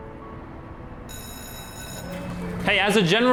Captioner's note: bell ringing